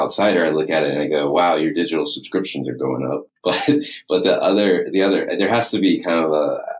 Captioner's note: laughs